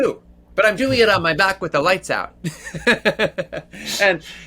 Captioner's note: laughs